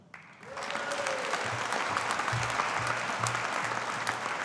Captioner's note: audience applauding